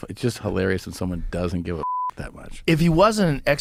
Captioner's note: beep